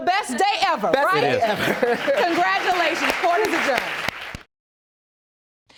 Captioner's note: chuckling